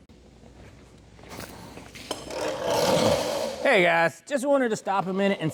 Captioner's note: tires Screech